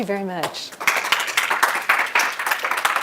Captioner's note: applause